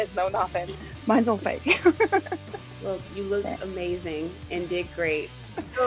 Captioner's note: laugh